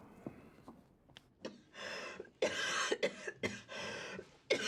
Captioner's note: coughing persistently